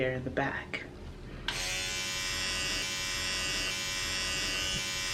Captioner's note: toothbrush vibrating